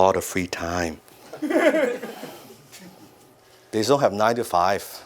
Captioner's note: audience laugh